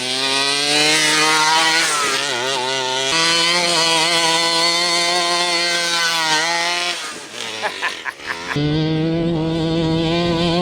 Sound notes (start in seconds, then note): 1.7 truck engine revving; 7.2 laughing